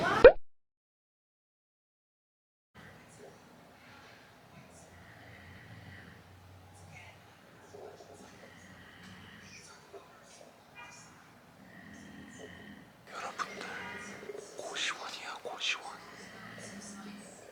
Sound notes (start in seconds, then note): 4.5 someone snoring